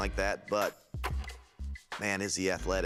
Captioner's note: film reel clicks